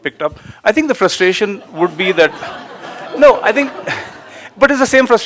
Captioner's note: Adamus shrugs and more laughter